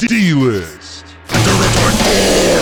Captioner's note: demonic Voice